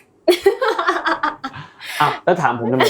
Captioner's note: laughs